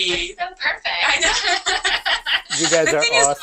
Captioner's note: laughter